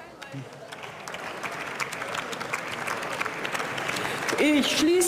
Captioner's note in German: Beifall